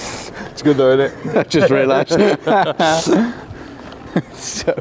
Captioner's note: laugh